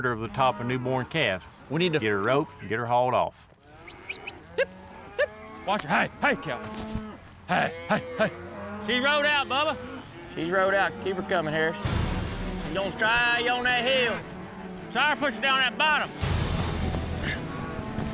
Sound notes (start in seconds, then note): 3.8 calling, whistling